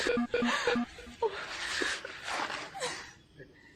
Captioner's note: phone beeping